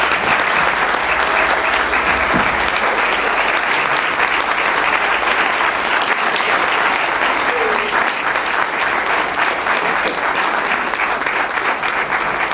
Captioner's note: applause